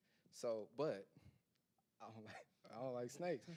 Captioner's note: laughing